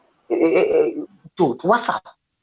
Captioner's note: stutters